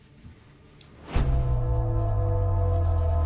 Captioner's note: ominous ringing